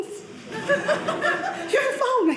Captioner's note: audience laughing